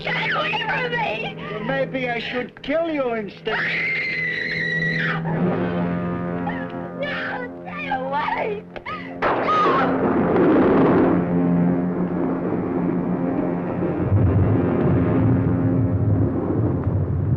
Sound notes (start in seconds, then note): 3.4 Dale shrieks; 8.8 volcano rumbling